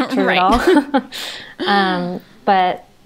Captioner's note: they laugh